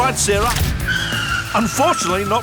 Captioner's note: skrrrrttttttttttt